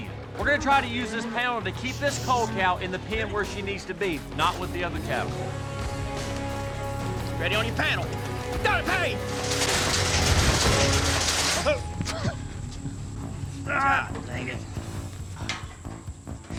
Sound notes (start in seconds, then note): 10.6 panel falls; 13.7 groaning